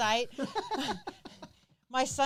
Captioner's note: laughs